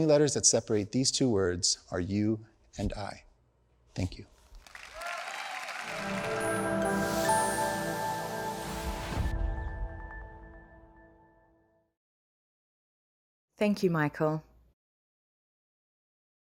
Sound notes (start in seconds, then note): 4.5 audience applauds; 5.8 calm music